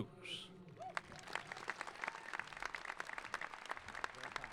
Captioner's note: applauding